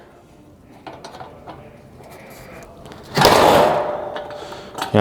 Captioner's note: metal clanking